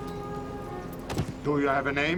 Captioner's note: thud